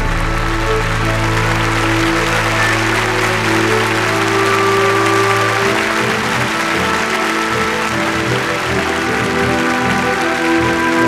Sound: applause

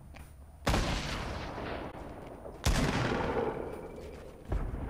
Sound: loud gunshots

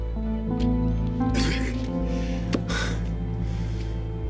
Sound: grunts

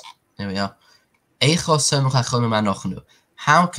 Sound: Hebrew

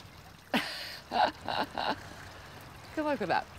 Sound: laughs

